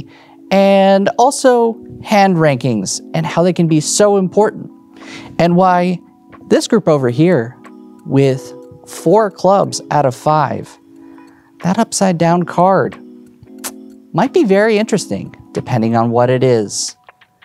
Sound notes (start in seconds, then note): 13.6 sucks teeth